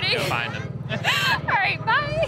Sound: laughing

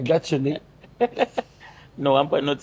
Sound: both laughing

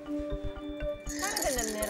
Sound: bells ringing

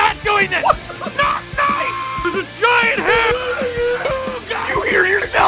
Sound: screaming; Harry potter screaming

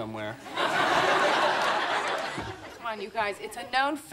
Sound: audience laughing

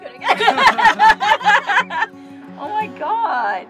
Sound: all laughing

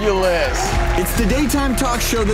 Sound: cheering

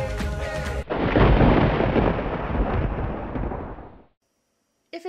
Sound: thunder crashes

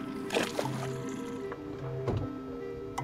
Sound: water Splashing

